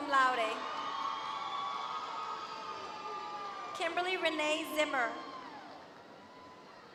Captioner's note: applause